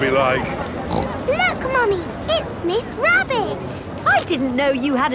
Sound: snorts

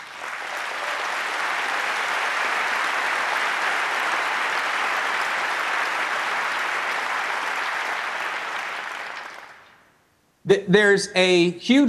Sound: applause

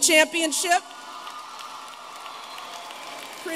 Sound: applause

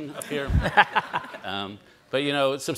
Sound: all laugh

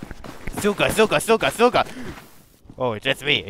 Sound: gasp

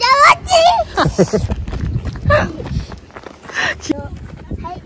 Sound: laughs

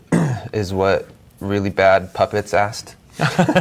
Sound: laughing

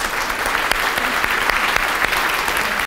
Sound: applause

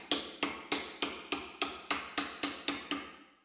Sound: knocking

